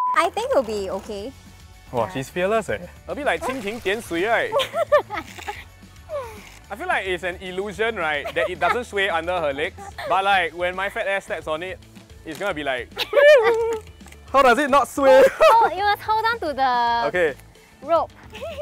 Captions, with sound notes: I think it’ll be okay. Wah, she’s fearless leh. A bit like 蜻蜓点水 (dragonfly gently touching water) right? I feel like it’s an illusion right, that it doesn’t sway under her legs. But like, when my fat ass steps on it, it’s going to be like, whee-whoo. How does it not sway? You must hold on to the- Okay. rope.